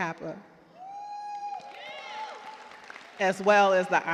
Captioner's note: cheers and applause